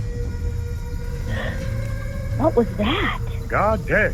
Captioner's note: creatures vocal howling; gasp